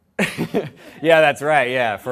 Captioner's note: laughter